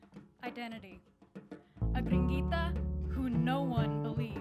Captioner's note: speaks in foreign language